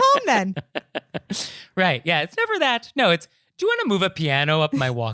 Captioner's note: giggling